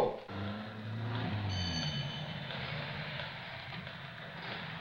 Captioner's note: engine revving